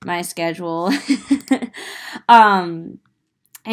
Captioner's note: giggling